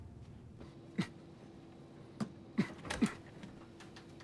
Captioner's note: co-pilot coughs